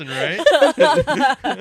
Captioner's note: laughing